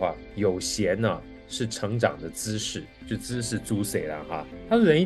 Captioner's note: Taiwanese